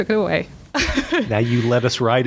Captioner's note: chuckle